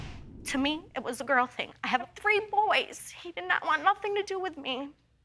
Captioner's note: none